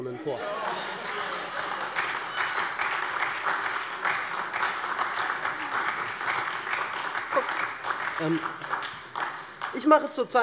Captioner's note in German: Heiterkeit und Beifall SPD, vereinzelt Freie Demokraten und DIE LINKE